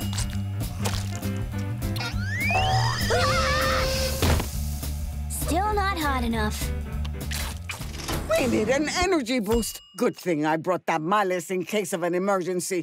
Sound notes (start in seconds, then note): 2.0 screaming